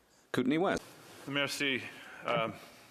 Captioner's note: speaking French